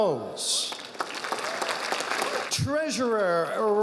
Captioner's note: audience applauding